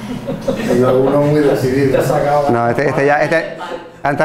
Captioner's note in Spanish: risas